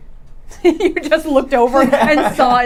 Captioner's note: laughing